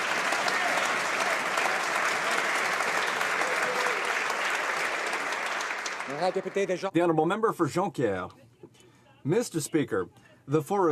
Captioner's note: some Applause